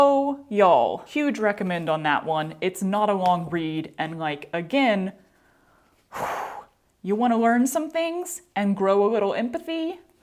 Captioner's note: exhale